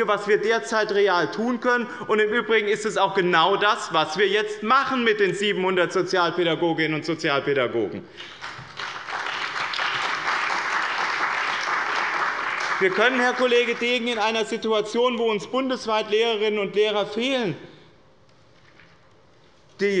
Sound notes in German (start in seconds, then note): 8.1 Beifall bei dem BÜNDNIS 90/DIE GRÜNEN und der CDU